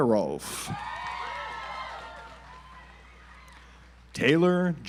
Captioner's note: audience applauds